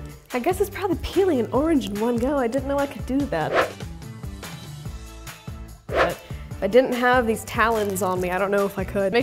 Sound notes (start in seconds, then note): 3.4 fast whoosh; 4.3 light music; 5.9 fast whoosh